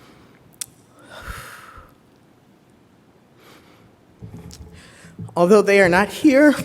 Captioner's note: exhales